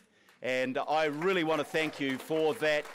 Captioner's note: audience applauds